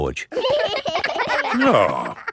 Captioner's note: giggling